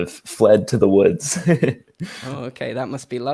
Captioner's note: chuckles